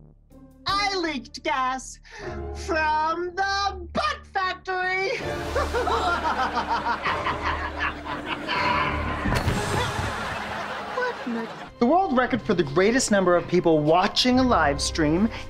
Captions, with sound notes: I leaked gas from the butt factory! [evil laugh] What in the...? The world record for the greatest number of people watching a livestream